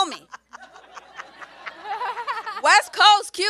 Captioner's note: audience and panelists laugh